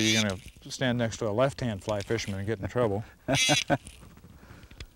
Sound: laughter

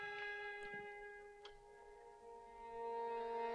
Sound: fire softly crackling; light clicks; ominous music

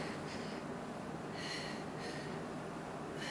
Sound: breathing heavily

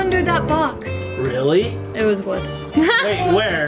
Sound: laughs

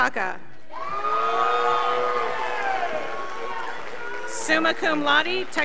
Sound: scholars applauding

